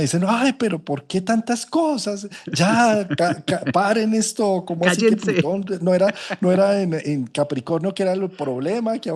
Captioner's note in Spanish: risas